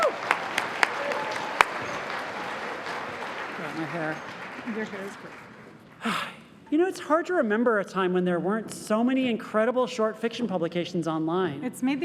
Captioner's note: cheers and applause